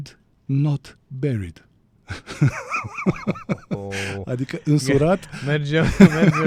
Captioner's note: laughter